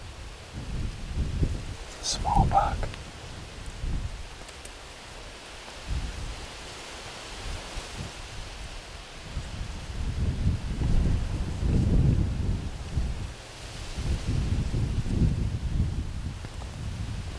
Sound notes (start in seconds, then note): 6.1 wind blowing